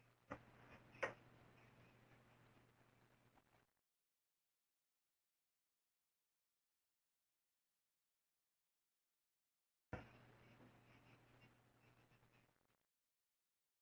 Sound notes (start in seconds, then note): 0.0 silence